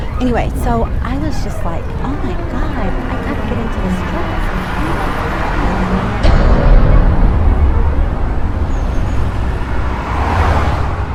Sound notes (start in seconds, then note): 5.9 voice fades